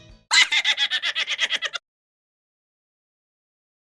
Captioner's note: rabbit Laughing